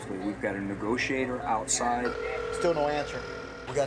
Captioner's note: line ringing